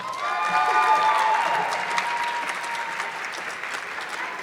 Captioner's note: audience clapping